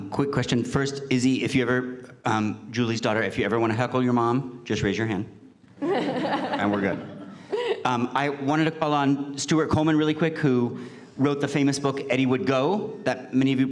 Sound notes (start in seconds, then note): 5.8 laughter